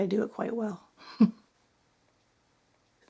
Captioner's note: laughing